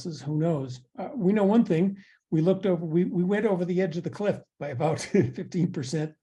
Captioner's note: laugh